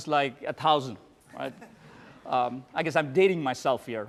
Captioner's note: laughter